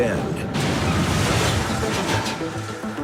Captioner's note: crashing